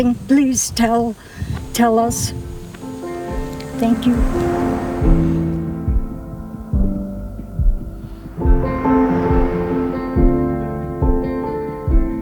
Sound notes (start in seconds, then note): 3.4 gentle music; 5.1 traffic humming